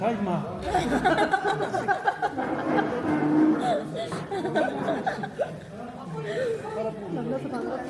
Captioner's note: laughs